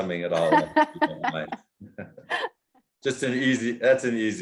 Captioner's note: laughter